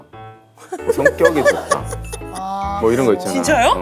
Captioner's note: laughs